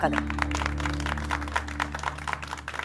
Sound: clapping

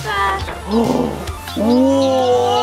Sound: gasps

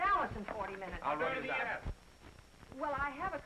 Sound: overlapping chatter

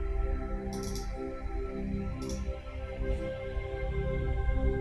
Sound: mouse clicking

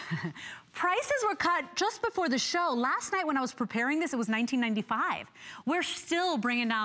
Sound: laughter

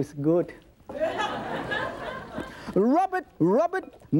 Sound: audience laughing

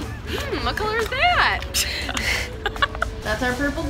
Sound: laughs

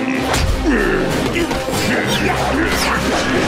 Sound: grunting

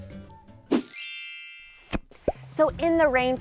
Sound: twinkling

